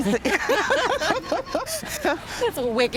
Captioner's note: laughter